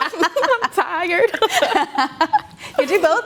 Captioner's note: laughter